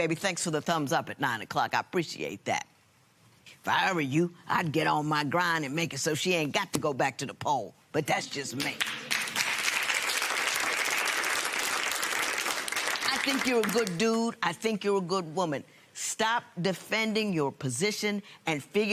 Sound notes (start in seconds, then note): 8.6 applause